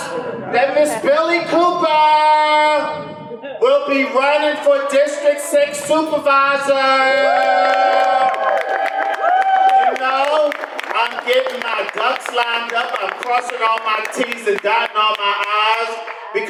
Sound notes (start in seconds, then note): 7.7 audience applause